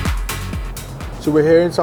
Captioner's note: none